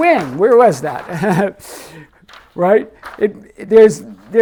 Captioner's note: laughing